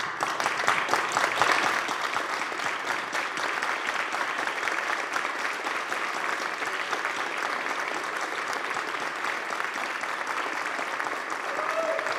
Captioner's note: applause